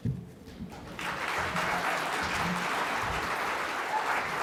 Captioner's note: audience applauds